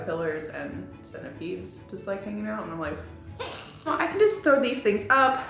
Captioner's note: gags